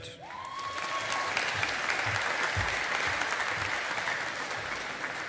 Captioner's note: audience applauding